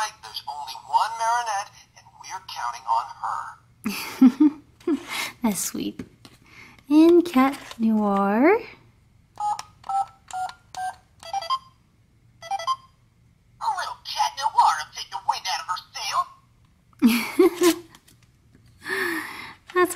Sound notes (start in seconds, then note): 3.9 voiceover laughs; 5.6 voiceover; 9.3 beeping; 17.0 voiceover laughs